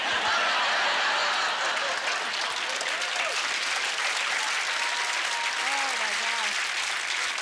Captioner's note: laughter; cheers and applause